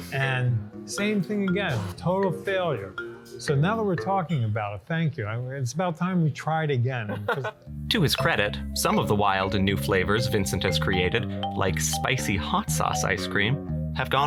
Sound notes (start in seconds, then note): 7.1 laughs